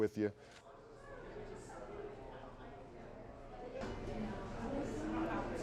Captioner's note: large crowd chatter